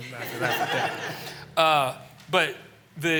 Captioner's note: laughter